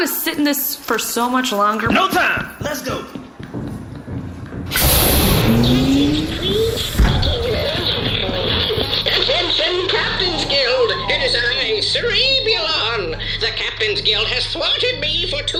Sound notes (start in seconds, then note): 6.5 glitching; 6.8 Cerebulon’s voice emerges from the speakers